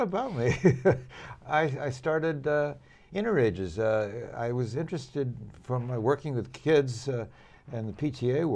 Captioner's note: laughter